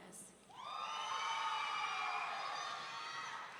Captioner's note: audience cheering